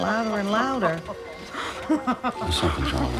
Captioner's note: laughing